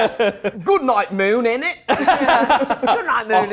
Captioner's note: all laughing